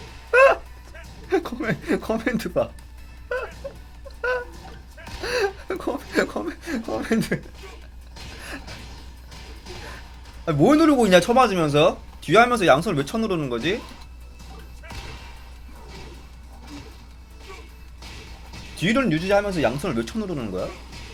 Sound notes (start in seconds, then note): 4.0 dying in disbelief